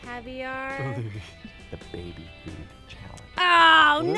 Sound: whispers

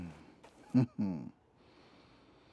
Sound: Kwabena chuckles

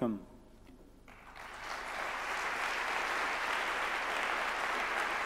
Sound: audience clapping

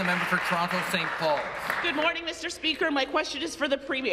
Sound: applause

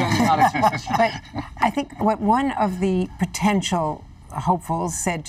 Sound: laughter

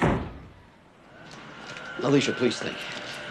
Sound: door closes

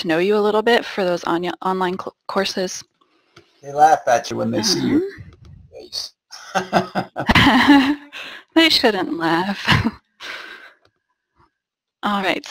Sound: laughter

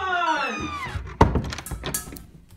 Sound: door creaks closed

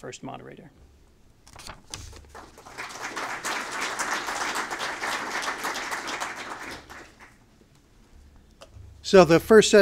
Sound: applause

